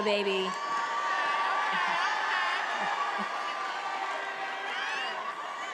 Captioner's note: attendees cheering